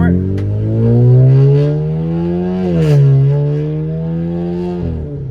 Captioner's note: car engine revving